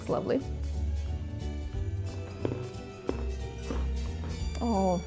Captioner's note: light music continues; toffee crunching